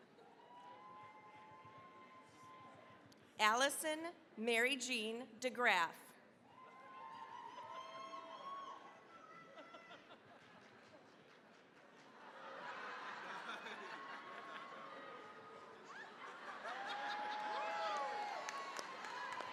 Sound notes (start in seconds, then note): 0.2 cheering, applause; 6.5 cheering, applause; 12.4 audience laughing; 16.0 all laughing